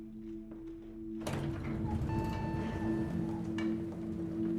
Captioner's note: elevator dings